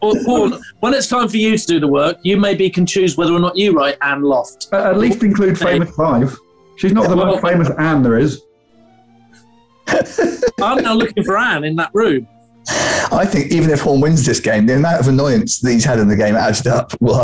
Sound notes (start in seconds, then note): 9.8 laughing